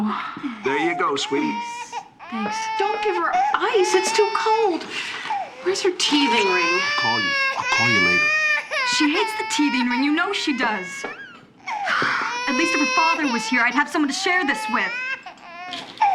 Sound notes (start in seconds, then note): 11.5 sighs